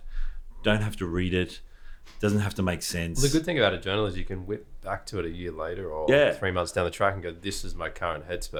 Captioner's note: none